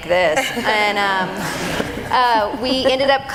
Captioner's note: audience laughing